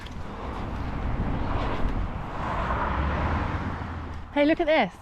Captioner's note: traffic